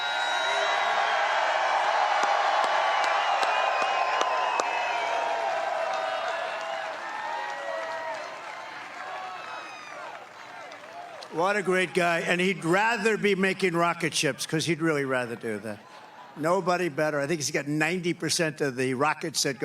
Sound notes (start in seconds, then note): 0.0 cheering; 2.6 applause